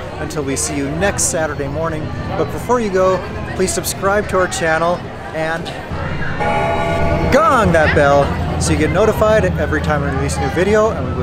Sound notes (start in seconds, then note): 6.4 bell rings